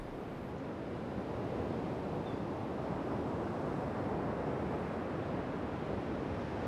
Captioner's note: rushing water